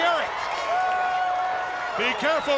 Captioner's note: crowd cheering